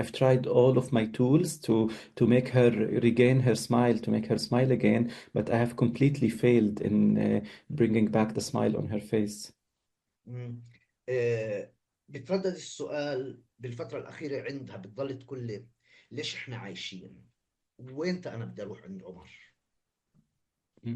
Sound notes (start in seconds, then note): 11.5 speaking arabic